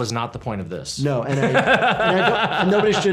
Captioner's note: laughs